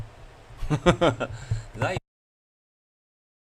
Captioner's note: laughter